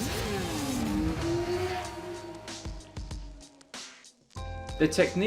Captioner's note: motorcycle engine revving